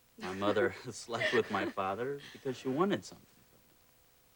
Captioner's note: laughs